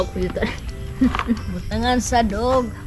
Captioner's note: chuckles